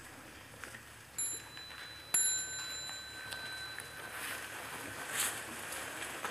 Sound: sound of small bell

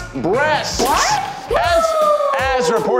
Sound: cheers

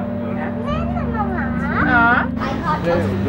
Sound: speaking foreign language

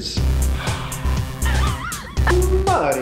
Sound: upbeat music begins; laughs

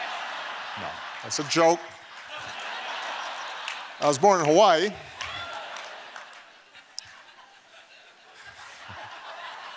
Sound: laughter

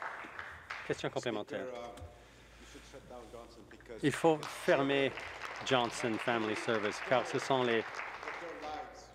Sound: applause

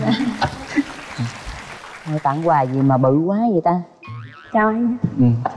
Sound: applause

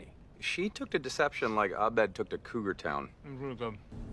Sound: while chewing food

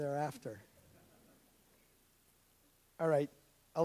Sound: audience laughs

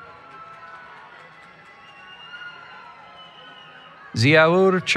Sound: cheering

